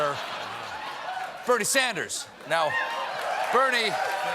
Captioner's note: applause